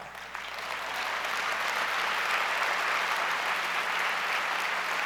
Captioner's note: audience applauds